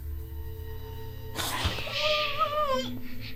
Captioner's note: gasping